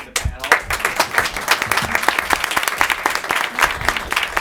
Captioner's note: applauding